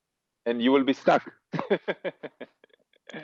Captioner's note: laugh